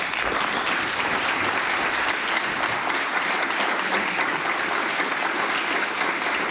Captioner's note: applause